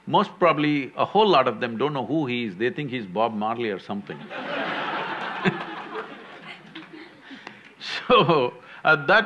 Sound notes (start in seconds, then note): 4.2 laughter; 4.2 laughs